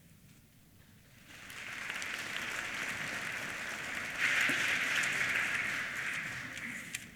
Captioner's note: applause